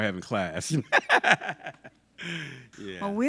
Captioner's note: laughs